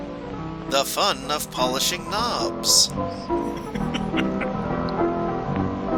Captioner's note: chuckles